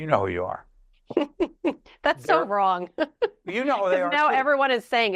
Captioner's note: laughs